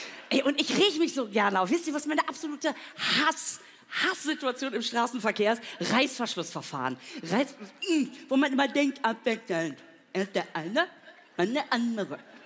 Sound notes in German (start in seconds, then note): 7.6 wütend